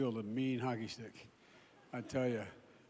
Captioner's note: laughter